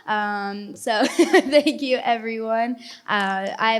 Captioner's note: laughs